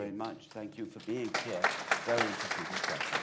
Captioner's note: applause